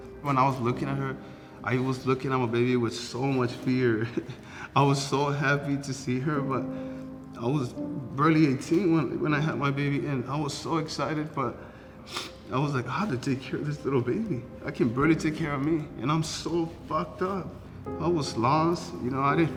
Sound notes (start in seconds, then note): 0.0 soft piano music continues; 4.1 chuckles